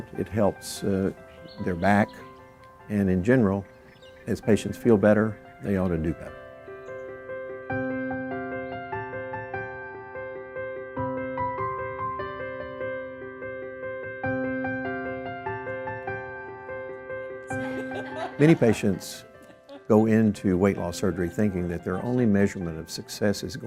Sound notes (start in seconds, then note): 6.8 uplifting piano music; 17.5 laughter